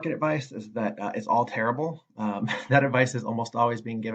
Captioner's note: laughs